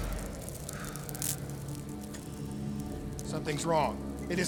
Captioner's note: sighs